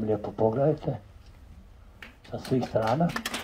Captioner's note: applause…